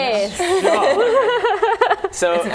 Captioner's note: laughing